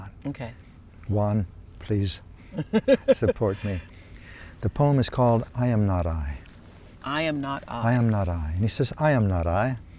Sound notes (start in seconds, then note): 2.5 laughs